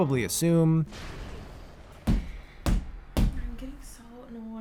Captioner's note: fist angrily slamming on a desk 3 times